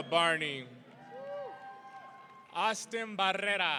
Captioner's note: audience cheering